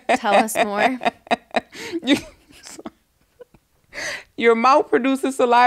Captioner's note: laughing